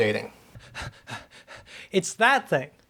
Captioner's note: heavy breathing from running